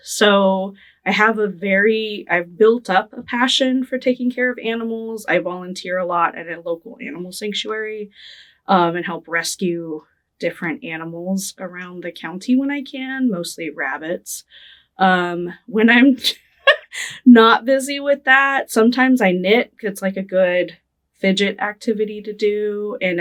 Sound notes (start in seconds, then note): 16.6 laughing